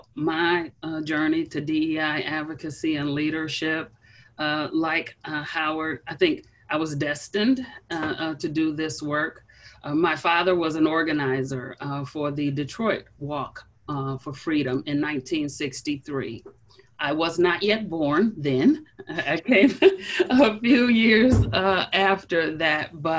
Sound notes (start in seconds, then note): 19.0 chuckles